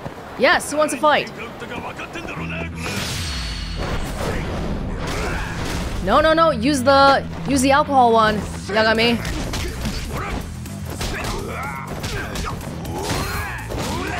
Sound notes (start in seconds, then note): none